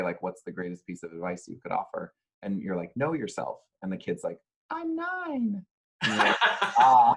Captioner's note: laughs